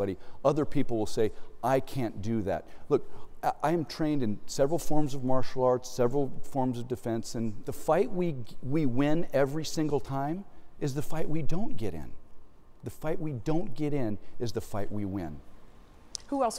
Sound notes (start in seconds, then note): none